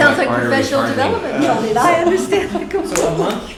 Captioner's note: laughter